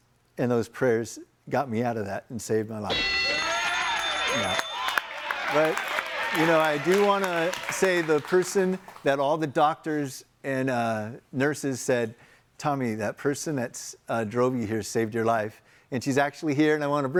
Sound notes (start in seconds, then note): 2.9 bell dinging; 2.9 all applauding